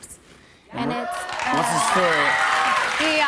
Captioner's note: cheers and applause